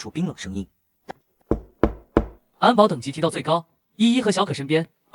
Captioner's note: tap